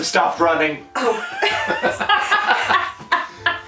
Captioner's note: laughter